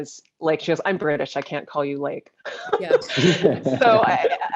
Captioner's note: laughs